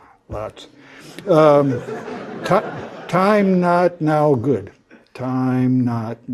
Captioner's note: laugh